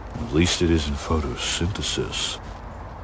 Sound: none

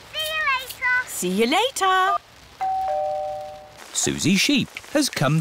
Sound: doorbell rings

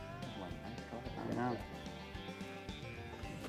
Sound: talking quietly

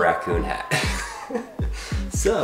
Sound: laughs

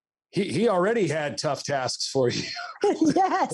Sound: laughs

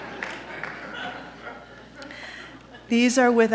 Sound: laughter

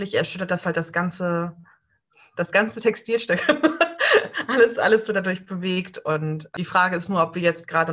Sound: laughs

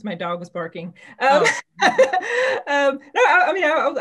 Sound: people laughing

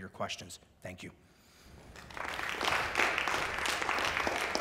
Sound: applause

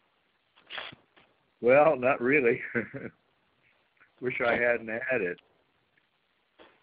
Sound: chuckles

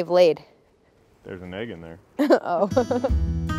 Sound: Claire laughing; cheerful music

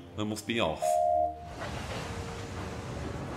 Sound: oliver whistles

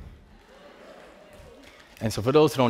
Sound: faint cheering

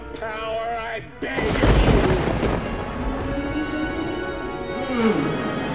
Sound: thunder; moaning

